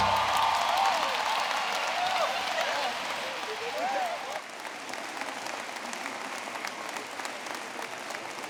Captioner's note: applause